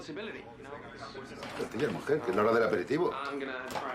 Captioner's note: berbicara bahasa spanyol